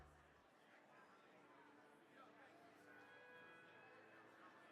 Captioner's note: crowd chattering